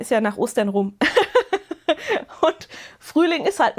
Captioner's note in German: Gelächter